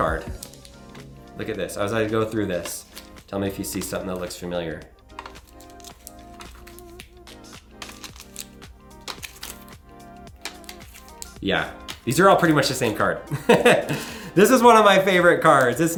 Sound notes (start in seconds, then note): 5.1 cards clanging; 13.3 laughing loudly